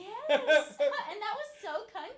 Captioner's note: laughing